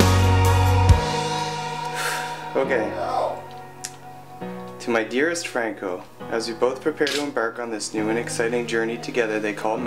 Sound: sighs

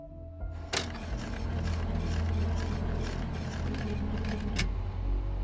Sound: gentle piano music; film reel clicking

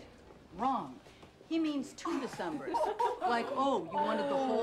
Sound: women Laughing

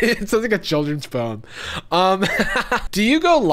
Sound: laughing

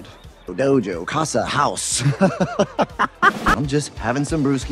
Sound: laughter

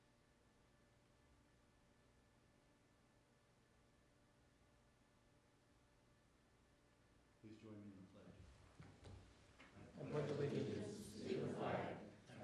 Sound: moment of silence

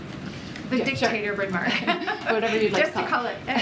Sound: laughter

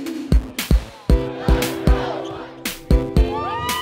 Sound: fans chanting; students cheering

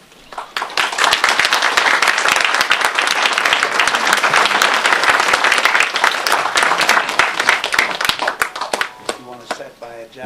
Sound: applause

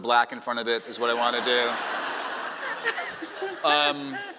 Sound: laughing

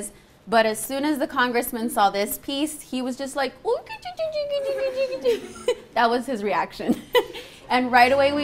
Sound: funny noises

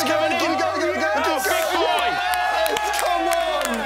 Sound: shouting

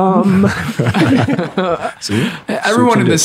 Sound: all laughing

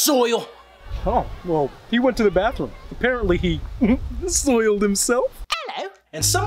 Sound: giggle

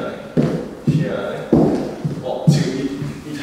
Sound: slipping

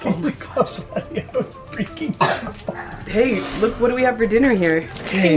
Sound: laughs

